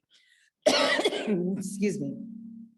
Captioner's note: coughs